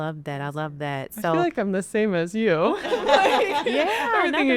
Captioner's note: laughs